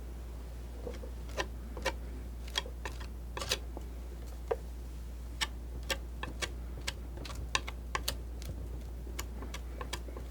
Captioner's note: scratching